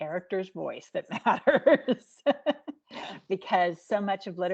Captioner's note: laughing